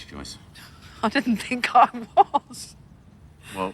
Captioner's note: laughing